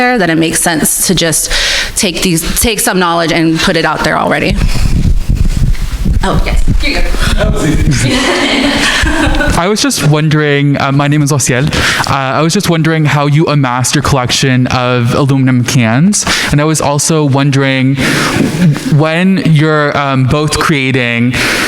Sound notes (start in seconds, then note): 7.2 mumbling; 7.3 crowd laughing